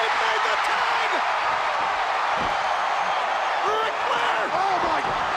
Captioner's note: crowd cheering